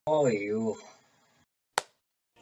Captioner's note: clap